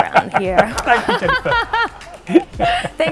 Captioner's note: laughs